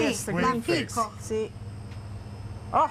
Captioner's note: speaking Italian